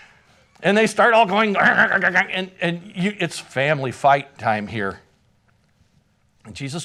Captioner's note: grunting noises